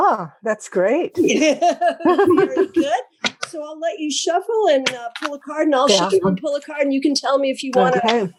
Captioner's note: laugh